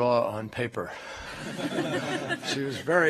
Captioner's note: laughter